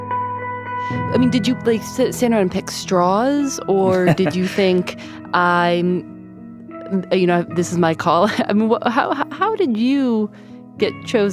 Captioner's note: laughter